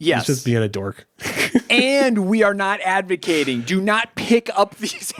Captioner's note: laughs